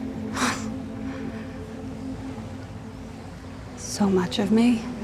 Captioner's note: Wendy quietly gasping